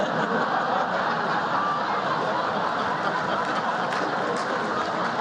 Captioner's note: laughter